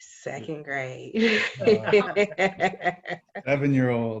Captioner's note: laughing